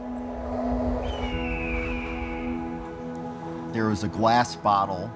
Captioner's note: bird calling in distance